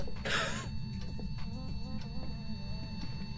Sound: laughs in scumbag

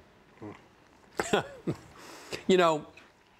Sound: laughs

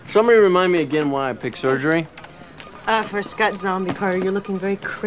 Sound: none

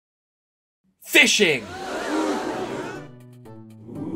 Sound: crowd gasping sound effect; crowd ooing sound effect

